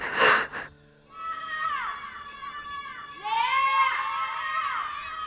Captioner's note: group of girls calling Lea out loud